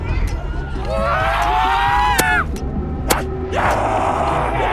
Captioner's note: zombie screams